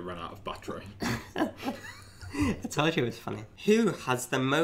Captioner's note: laughs